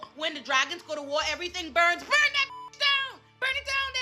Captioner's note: beep